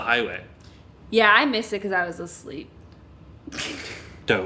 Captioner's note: laughs